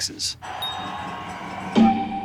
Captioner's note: crowd applause and cheering; dinging